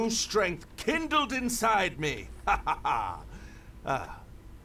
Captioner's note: coughs